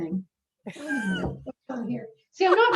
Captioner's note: laughs